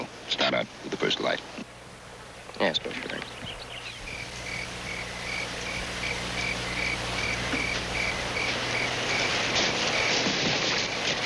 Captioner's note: crickets chirping